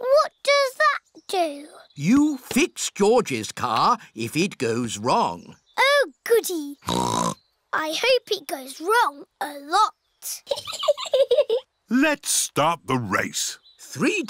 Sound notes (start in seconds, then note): 6.8 snorts; 10.4 chuckles